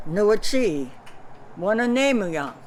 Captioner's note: non-english speech